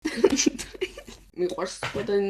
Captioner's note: giggles